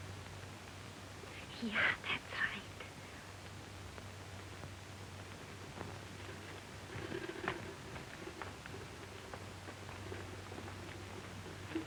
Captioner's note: whispering